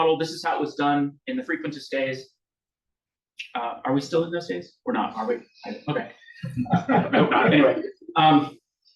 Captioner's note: audience laughs